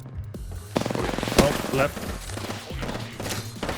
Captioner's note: over gunshot sounds